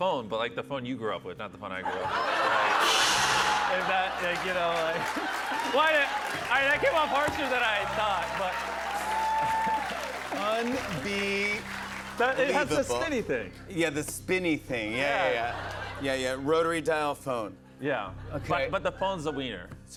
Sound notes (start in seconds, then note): 1.8 laughter; 5.0 laughter and applause; 8.5 cheers and applause